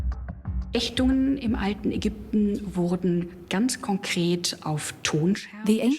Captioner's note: speaks German